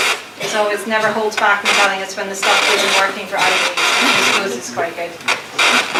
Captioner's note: audio white noise